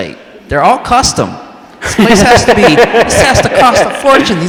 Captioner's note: all laugh